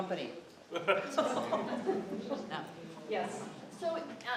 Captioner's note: laughter